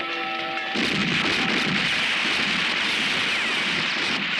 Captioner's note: guns roaring